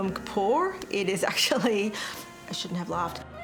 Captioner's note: laughs